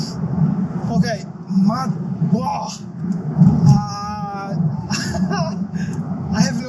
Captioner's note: weird primate sounds